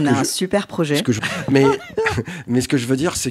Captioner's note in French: rire